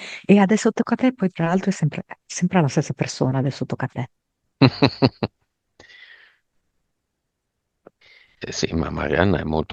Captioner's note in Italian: risate